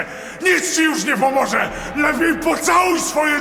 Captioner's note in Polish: każde kolejne zdanie wykrzykuje coraz głośniej